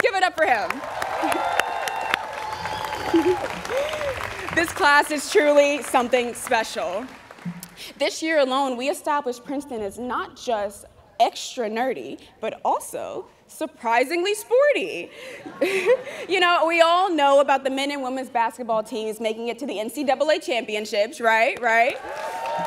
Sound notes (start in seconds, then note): 0.7 students cheering